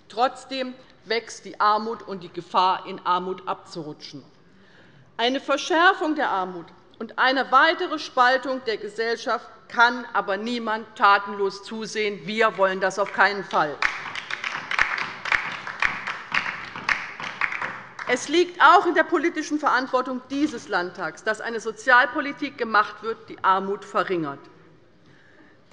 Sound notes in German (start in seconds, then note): 13.0 Beifall bei der LINKEN